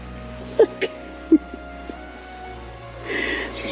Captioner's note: laughing